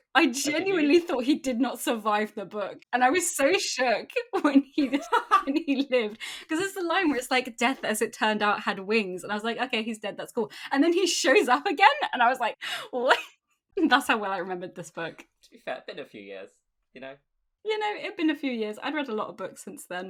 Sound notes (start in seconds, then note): 4.8 laughing